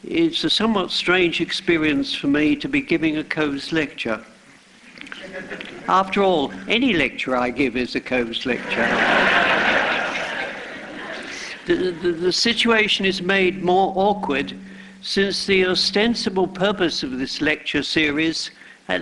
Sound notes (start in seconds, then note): 5.1 laughter; 8.6 laughter